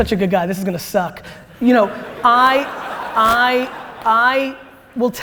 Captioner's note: audience laughter